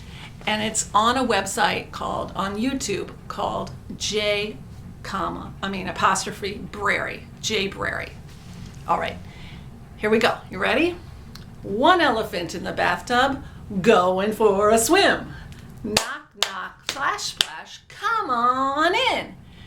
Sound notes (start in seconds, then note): 15.9 claps